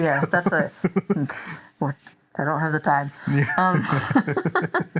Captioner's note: laughs